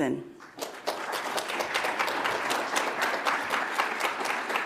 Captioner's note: audience applauds